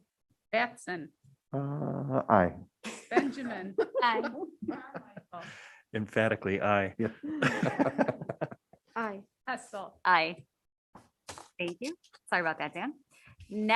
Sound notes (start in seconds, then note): 5.9 members laughing